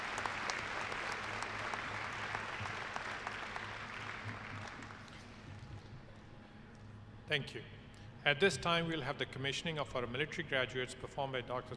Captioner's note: applause